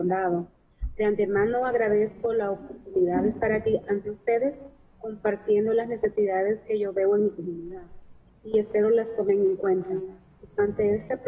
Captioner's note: speaking spanish